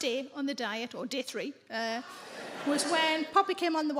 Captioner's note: audience laughing